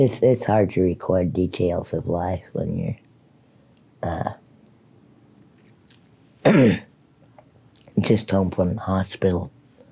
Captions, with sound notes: It's hard to record details of life when you're, uh... (clears throat) just home from the hospital.